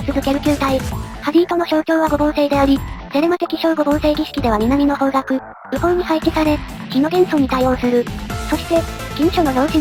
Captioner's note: distorted